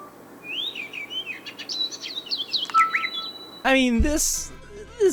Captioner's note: birds chirping